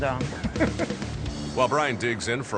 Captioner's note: laughs